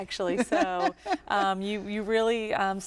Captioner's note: laughter